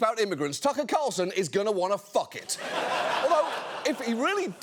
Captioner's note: audience laughing